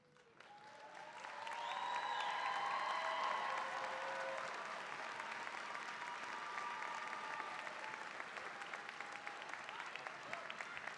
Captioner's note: cheering, applause